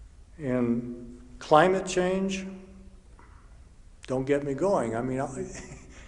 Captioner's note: chuckles